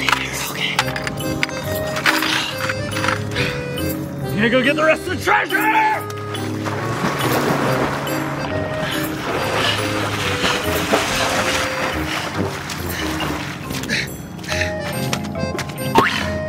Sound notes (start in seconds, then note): 2.0 panting; 9.4 panting